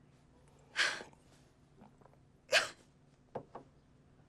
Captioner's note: sobbing